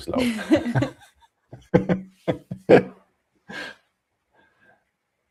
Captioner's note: laughter